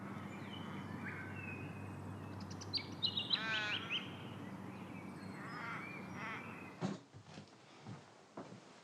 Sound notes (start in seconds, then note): 0.0 birds chirping